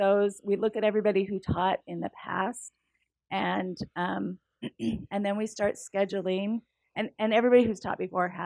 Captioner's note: cough